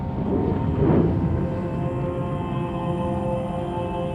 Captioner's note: fire blustering